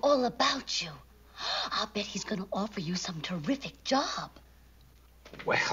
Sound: gasps

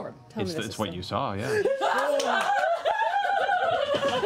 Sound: cheering

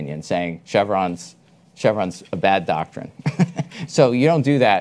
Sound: chuckles

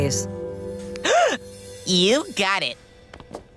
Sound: gasping

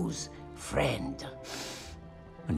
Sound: sniff

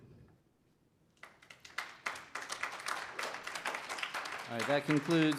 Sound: applause

